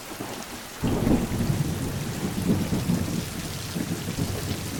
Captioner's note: thunder rolling